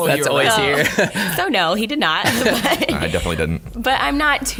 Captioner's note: laughing